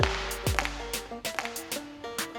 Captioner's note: circle slapping on floor; upbeat music; circle slapping on floor